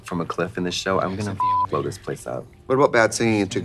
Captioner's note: beep